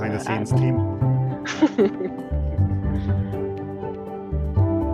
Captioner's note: laughing